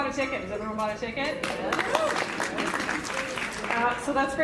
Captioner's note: applause